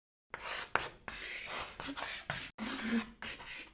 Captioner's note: chalk scratching